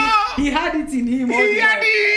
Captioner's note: laughing